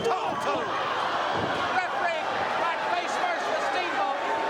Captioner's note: crowd chatter